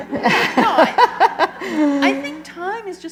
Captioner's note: laughter